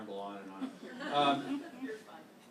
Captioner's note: laughter